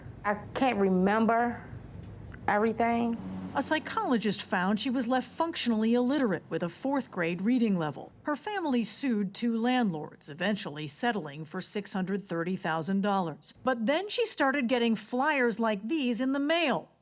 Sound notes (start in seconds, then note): none